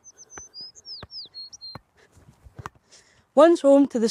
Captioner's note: birds whistling; ball thudding